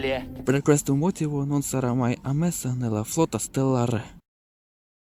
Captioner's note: spoke in Italian